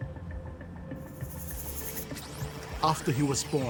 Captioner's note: text whooshing